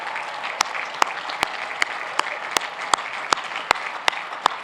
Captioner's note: cheers and applause